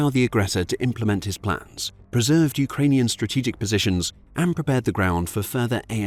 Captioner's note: Ukrainian